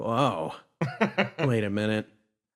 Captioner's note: laugh